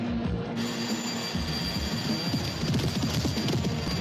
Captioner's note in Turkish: start zi̇li̇ çalar